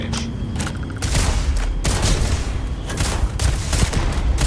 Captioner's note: gun firing